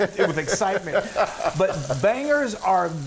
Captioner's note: laughs